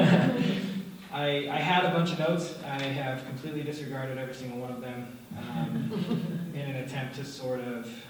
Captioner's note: laughter; laughter